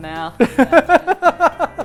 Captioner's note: laughs